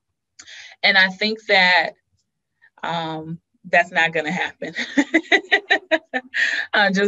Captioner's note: laughs